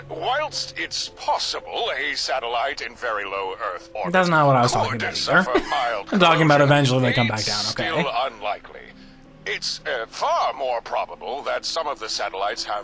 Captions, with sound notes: That's not what I was talking about either. (laughing) I'm talking about eventually they come back down, okay?